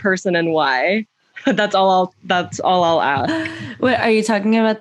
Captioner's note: laughter